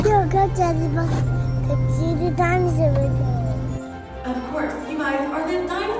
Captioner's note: none